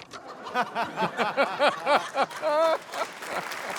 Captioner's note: laughter